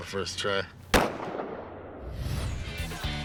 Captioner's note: gunshot